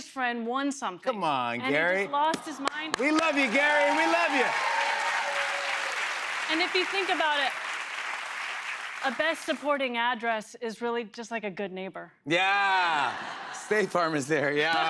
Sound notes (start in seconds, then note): 4.7 cheers and applause